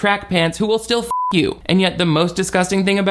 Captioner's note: beep